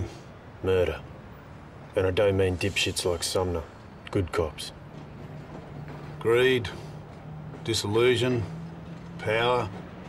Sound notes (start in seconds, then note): none